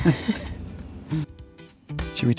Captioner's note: laughter